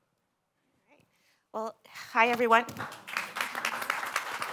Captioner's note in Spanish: aplausos